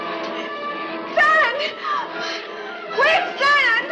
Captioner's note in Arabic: يلهث